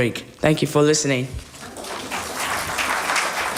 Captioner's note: applause